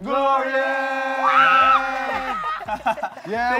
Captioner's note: laughter